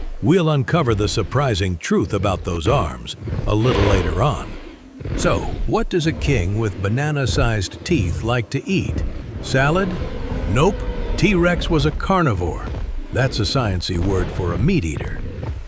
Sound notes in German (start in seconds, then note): 10.0 Brüllen